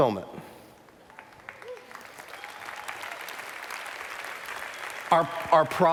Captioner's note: applause